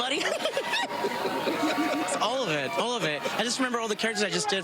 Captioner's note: laughter